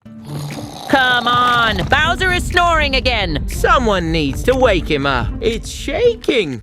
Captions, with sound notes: (Snoring) Come on! Bowser is snoring again! Someone needs to wake him up! It's shaking!